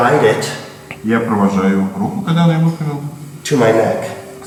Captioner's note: speaking in a foreign language